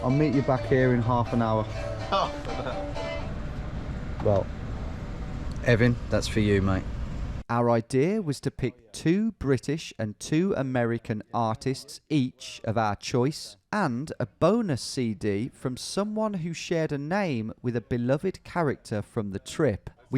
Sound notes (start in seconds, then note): 1.8 chuckles